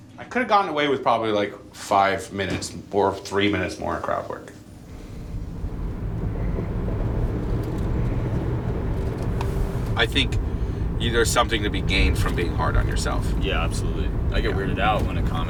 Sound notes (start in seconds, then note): 6.0 engine humming